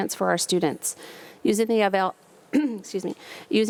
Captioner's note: clears throat